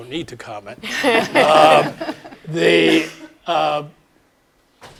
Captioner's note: laugh